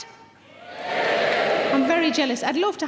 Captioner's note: cheering